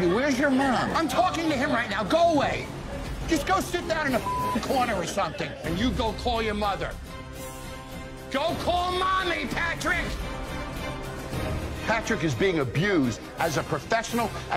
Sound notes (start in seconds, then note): 4.2 beep